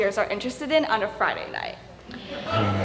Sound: laughter

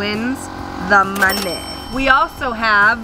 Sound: cash register chime

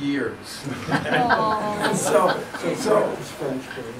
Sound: audeince Laughs

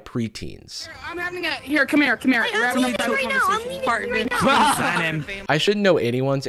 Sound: children talking over each other

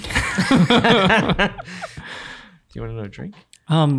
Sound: all laughing

